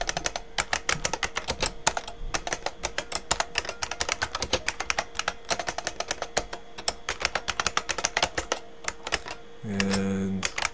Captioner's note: typing